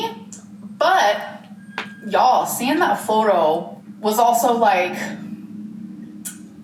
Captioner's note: groans